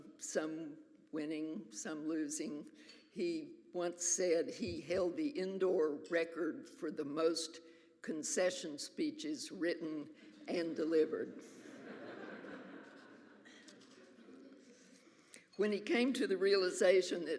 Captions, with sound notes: some winning, some losing. He once said he held the indoor record for the most concession speeches written and delivered. (audience laughs) When he came to the realization